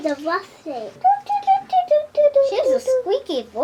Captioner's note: squeaks